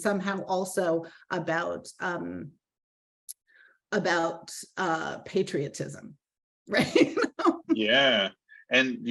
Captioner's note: laughing